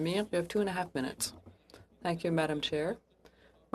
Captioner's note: speaking French